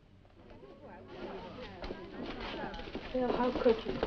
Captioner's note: students chattering